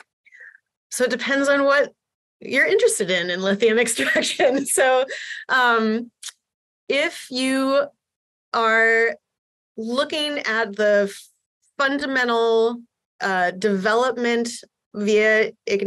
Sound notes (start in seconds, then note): 4.0 laughter